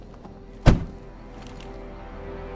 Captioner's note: car door closes